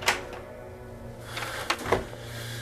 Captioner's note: locking of door; sighing